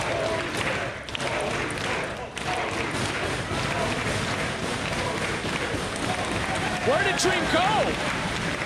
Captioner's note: crowd cheering